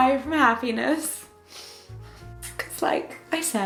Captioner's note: sniffles